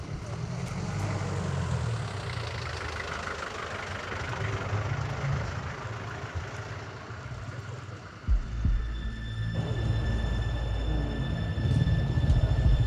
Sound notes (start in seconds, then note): 2.8 road ambience and traffic noise